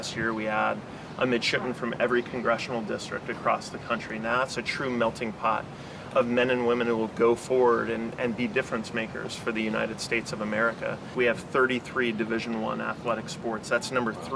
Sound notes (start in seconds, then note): none